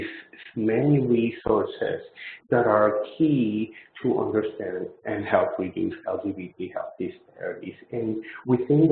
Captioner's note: audio distortion